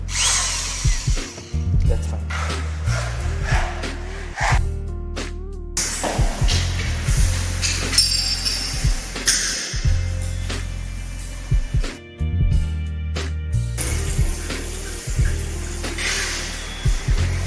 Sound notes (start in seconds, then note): 0.0 screwdriver whirs; 2.6 sawing; 5.6 tools clang; 13.9 water runs